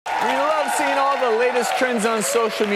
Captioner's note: audience cheers